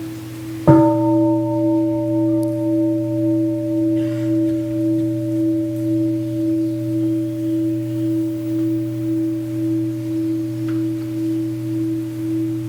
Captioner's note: gong